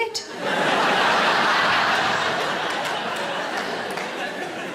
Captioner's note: audience laughs